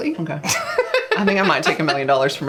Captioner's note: laughs